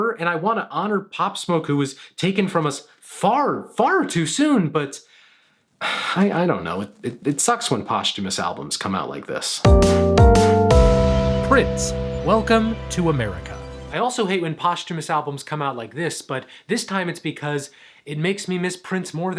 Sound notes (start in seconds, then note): 5.8 sighs; 9.6 upbeat music